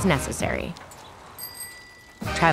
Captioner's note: bike bell ringing